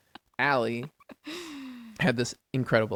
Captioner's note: laughs